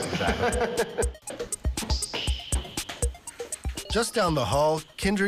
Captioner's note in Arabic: المضيف يضحك